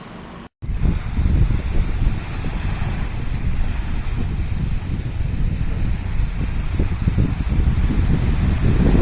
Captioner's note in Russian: шум Средиземного моря